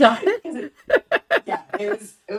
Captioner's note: laughs